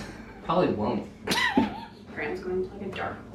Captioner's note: chuckles